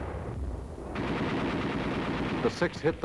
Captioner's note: guns firing